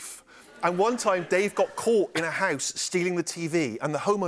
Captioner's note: laughter